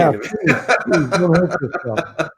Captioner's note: laughs